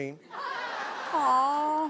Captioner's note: laughing